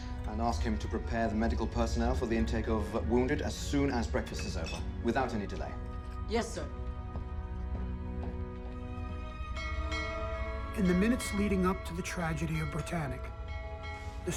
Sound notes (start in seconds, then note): 9.5 bell ringing